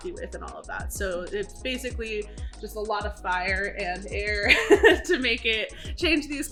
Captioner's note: laughs